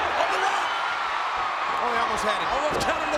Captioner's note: crowd cheers